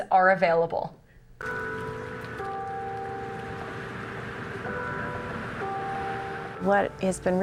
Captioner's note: bells